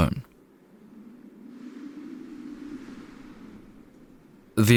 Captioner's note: szum wiatru